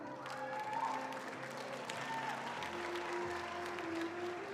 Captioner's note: attendees applauding